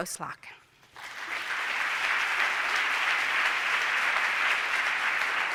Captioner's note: applause